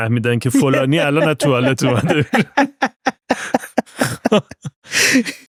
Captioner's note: laughter